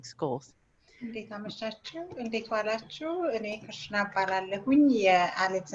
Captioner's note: speaks in a foreign language